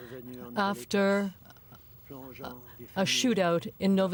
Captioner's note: speaking French